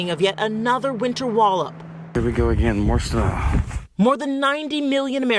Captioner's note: none